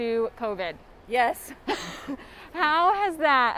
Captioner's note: laughs